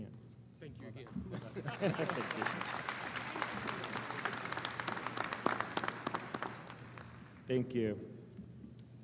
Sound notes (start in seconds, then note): 1.2 both laugh; 1.4 audience applauding